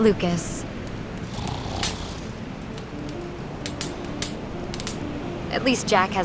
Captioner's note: Jack snoring